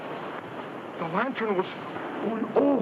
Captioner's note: speaks in foreign language